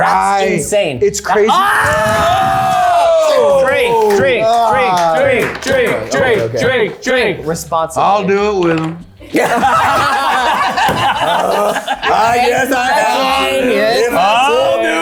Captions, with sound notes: - That's insane. - Ry, it's crazy. (everyone yelling) - Drink, drink, drink, drink, drink. Responsibly. - I'll do it with him. (everyone laughing) - I guess I have to.